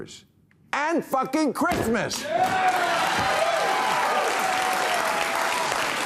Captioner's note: audience cheering, applauding